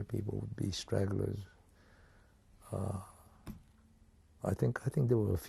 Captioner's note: pauses for 3 seconds